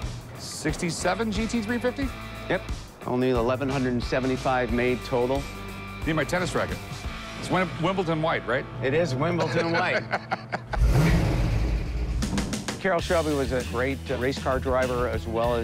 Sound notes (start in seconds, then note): 9.2 rick laughs; 10.8 engine revving